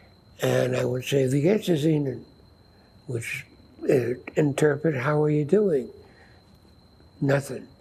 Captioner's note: german